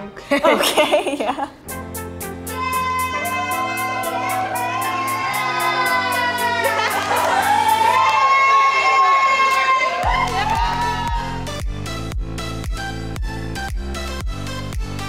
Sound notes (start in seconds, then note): 1.7 energetic techno music; 2.6 crew cheering